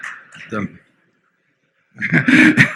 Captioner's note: laughter